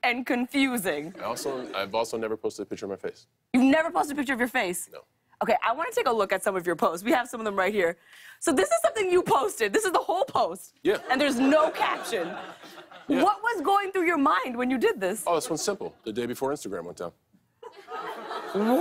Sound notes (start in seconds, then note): 11.0 laughter